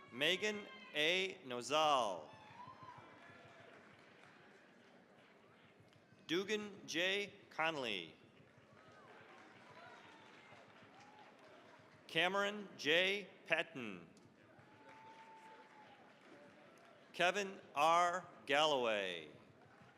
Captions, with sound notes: Megan A. Nozal. (cheering, applause) Dugan J. Conely. (cheering, applause) Cameron J. Patin. (cheering, applause) Kevin R. Galloway.